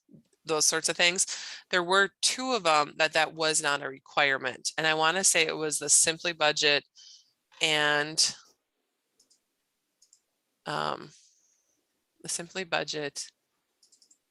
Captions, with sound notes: Those sorts of things, there were two of them that, that was not a requirement and I wanna say it was the Simply Budget and, (mouse clicks) the Simply Budget,